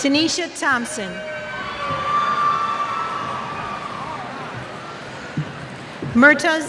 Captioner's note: cheers